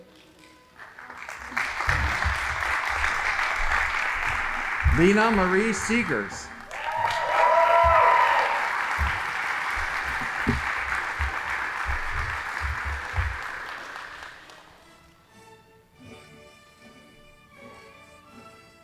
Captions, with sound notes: (audience applauding) Lena Marie Seagres. (audience applauding) (band playing)